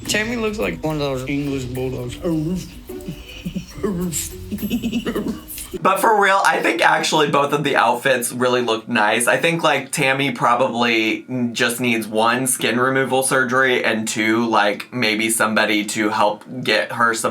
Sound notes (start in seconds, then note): 2.1 imitates barking